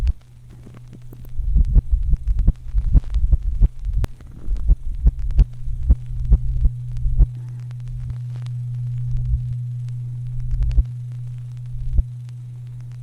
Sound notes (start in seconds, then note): 1.4 heartbeats grow erratically faster, yet still soft